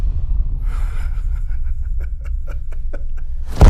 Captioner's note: chuckling